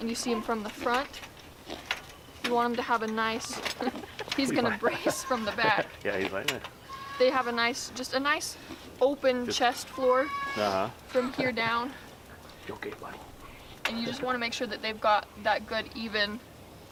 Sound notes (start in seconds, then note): 3.3 chuckles; 12.5 whispers